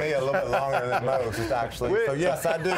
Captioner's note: laughter